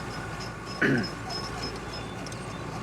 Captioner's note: clears throat